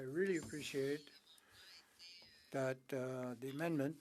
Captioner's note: speaking French